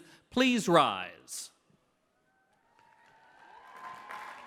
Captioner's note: clapping